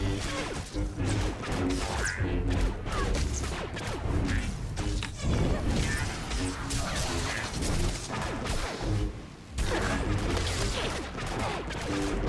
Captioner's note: gunshots